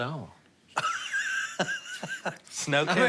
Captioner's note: laughs